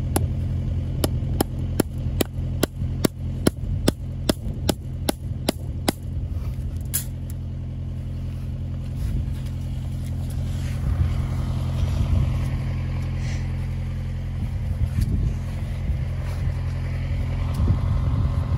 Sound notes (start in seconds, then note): 6.5 wire clattering; 13.5 machinery whirring